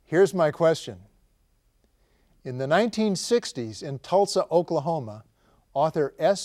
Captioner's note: none